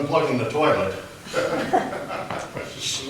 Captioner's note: laughter